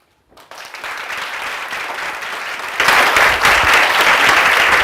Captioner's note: applause